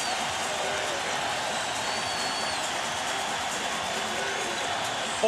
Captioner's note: cheering and applause